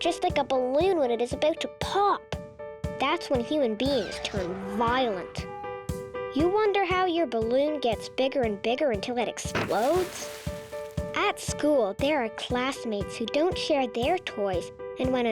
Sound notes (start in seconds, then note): 3.8 child yelling; 9.5 balloon pops